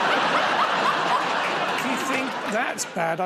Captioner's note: laughter